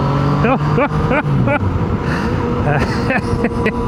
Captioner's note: laughs